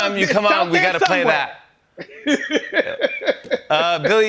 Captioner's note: laughs